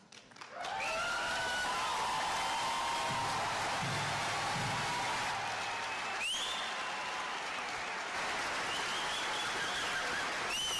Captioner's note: cheers and applause